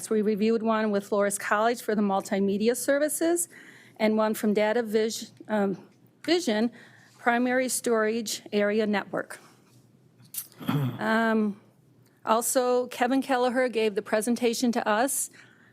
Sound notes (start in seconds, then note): 10.4 attendee clears throat